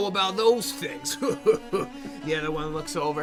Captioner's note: laughs